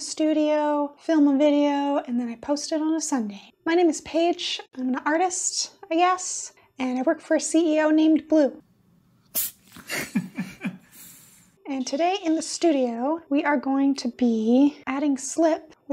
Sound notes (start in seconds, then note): 9.3 Blue sneezes